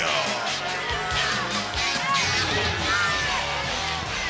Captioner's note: audience chanting and cheering